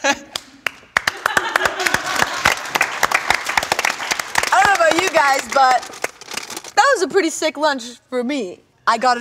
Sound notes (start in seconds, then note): 2.0 group applauds